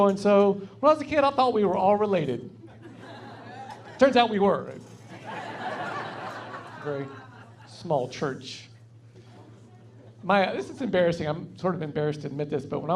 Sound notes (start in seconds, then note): 2.7 laughing; 5.1 laughing